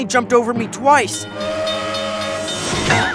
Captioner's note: train steam whistle hoots